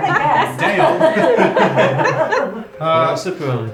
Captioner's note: laughing